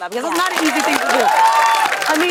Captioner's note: cheers and applause